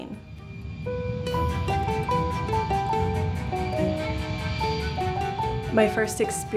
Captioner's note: plane engine roaring; upbeat music